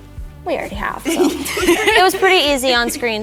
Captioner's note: all laughing